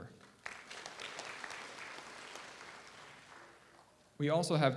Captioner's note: audience applauds